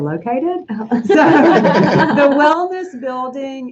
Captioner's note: laughing